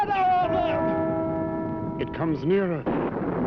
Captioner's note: bell chiming